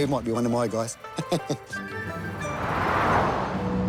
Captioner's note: chuckles